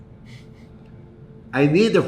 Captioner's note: chuckles